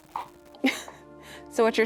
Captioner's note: laughs